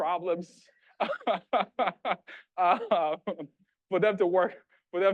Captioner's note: laughing